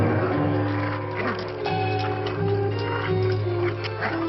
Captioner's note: wolf growling